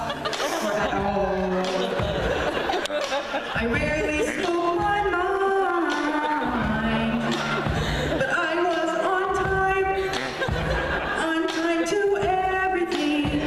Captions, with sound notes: or at all (laughter) I rarely spoke my mind (laughter) but I was on time (laughter) on time to everything